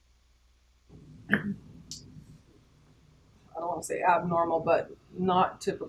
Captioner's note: cough